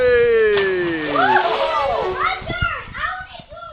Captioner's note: water splashes